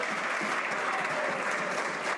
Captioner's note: some Applause